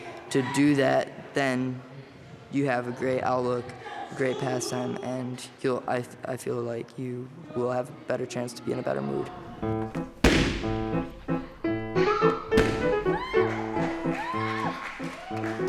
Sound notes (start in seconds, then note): 13.0 cheering